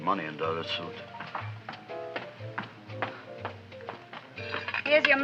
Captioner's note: feet thumping